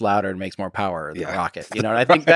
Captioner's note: Lex laughs